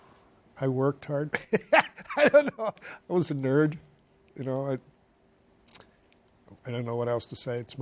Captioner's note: laughs